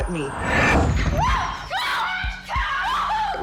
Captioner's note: screams